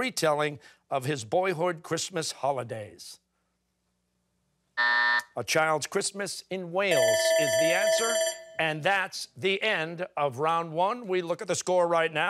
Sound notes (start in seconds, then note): 4.8 buzzer; 6.9 bell ringing